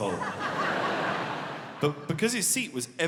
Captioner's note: audience laughing